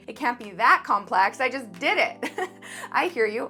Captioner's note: chuckling